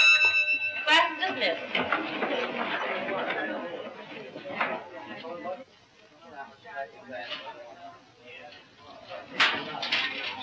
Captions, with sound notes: Class dismissed. [chatter]